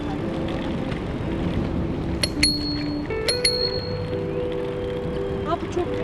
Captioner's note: bell Ringing